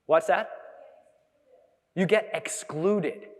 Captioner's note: audience member speaking softly; audience member speaking softly